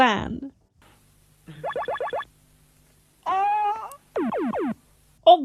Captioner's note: sci-fi noises; yelps